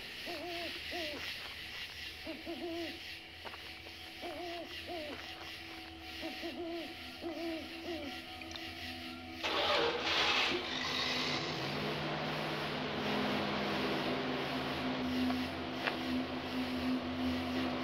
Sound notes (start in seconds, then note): 0.3 owl hooting; 3.4 dramatic music; 9.4 engine cranking; 11.0 engine humming